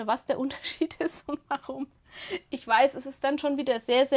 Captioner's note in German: gelächter